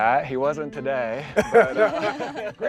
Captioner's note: all laughing